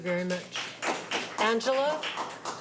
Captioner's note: applause